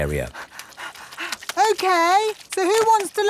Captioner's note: panting